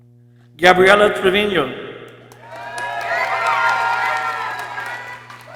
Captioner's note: people cheering